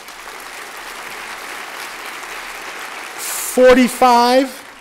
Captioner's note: applause